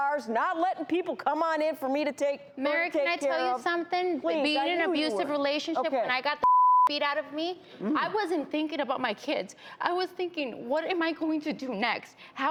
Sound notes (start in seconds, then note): 6.4 beeping